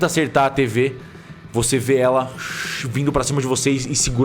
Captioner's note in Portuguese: shhh